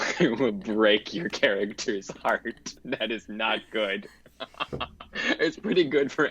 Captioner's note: laughs